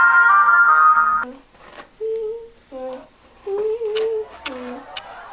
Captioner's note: rhythmic humming